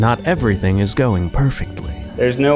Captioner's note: male Voice